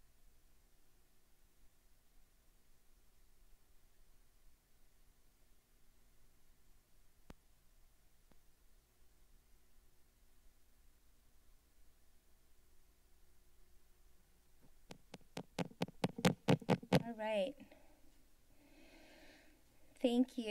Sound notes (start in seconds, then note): 0.0 silence; 7.4 silence; 14.8 microphone thumping sound; 18.2 silence